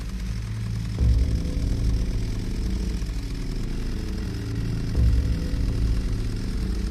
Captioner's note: chainsaw whirs; ominous music